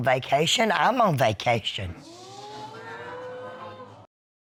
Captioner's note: audience exclaim